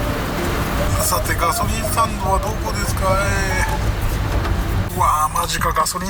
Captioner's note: crying